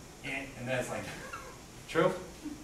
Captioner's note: laughs